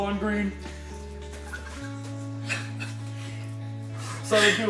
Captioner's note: devastated sobbing